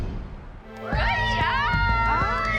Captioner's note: cheering